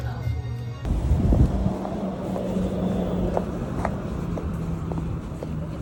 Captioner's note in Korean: 바람 슝슝